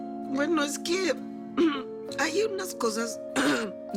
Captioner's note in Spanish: Carraspea